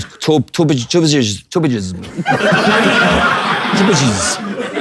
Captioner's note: people in room laughing